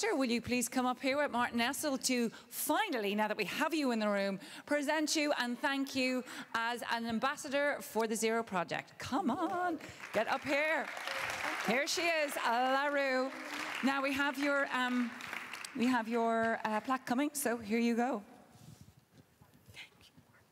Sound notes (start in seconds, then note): 9.7 applause